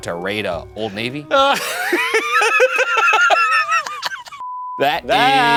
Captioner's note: laughing